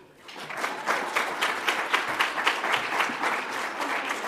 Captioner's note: audience applauds